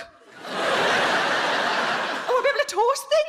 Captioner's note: audience laughing